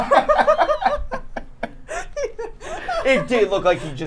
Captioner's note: everyone laughing